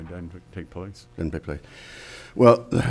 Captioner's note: faintly speaking